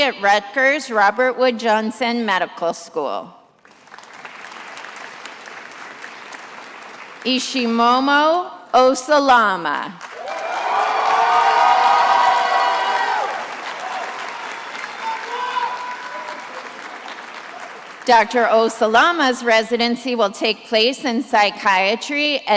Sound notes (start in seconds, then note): 3.6 attendees applauding; 10.0 attendees applauding and cheering